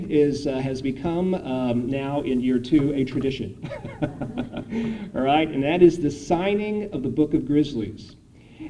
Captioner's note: laughter